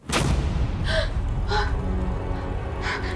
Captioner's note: girl gasps